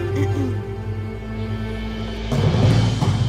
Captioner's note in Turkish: Boğazını temizliyor